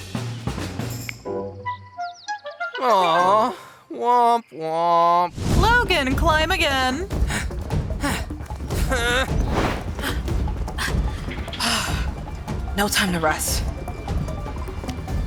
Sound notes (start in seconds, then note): 7.2 grunting; 10.9 sharp sigh